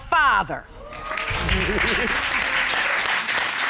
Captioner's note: audience exclaims, applauds; laughs